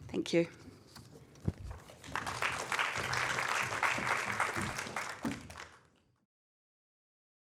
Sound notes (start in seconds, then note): 1.9 applause